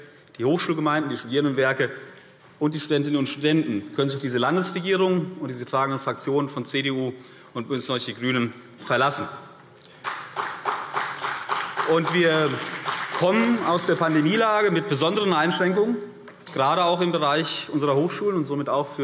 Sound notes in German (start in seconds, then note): 9.9 Beifall CDU und vereinzelt BÜNDNIS 90/DIE GRÜNEN